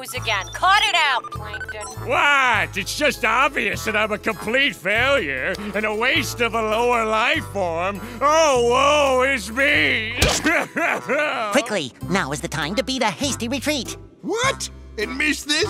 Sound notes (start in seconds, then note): 10.3 crying